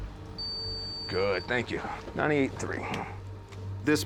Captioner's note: beeps